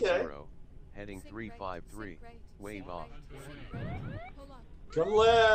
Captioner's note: robotic Voice; siren whooping